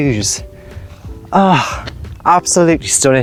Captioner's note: sigh